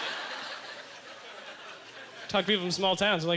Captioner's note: audience laughter